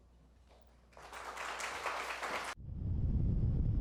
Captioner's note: applause